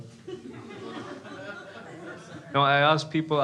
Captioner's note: crowd laughs